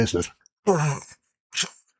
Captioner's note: grunting